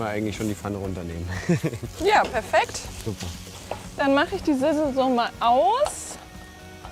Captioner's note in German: gelächter